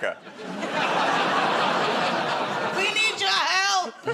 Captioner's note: laughter